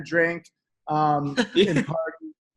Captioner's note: laughter